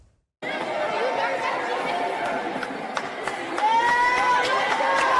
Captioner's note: people cheering